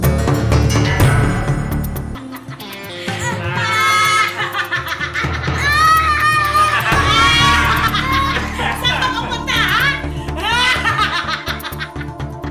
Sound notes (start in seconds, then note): 3.2 laughing continues; 5.5 screaming; 11.1 laughing